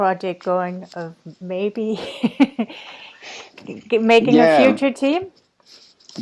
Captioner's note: laughs